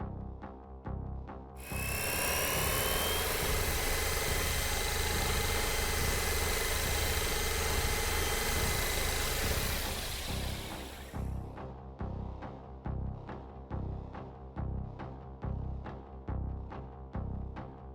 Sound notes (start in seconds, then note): 2.0 drone whirring; 11.5 tense music